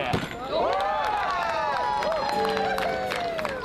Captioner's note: whooping; tender music